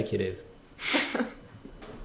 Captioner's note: laughter